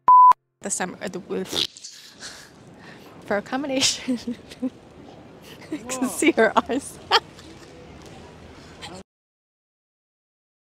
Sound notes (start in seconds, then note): 1.5 blows raspberry; 5.3 laughs